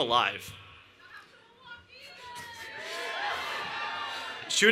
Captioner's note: cheering